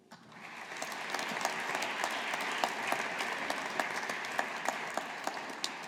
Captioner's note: audience applauding